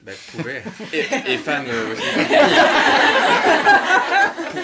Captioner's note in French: rires